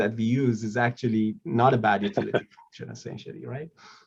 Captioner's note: laughing